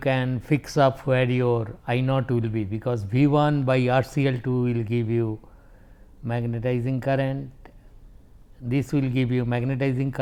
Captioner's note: low voltage